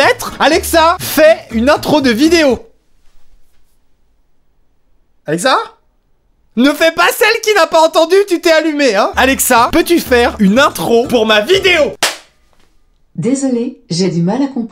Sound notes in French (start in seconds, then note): 2.3 silence